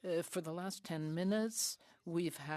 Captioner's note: speaking French